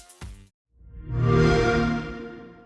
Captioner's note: xbox sound